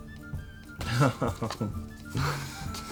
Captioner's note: chuckles